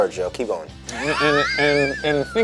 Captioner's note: laughing